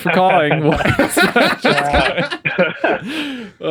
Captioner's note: laughing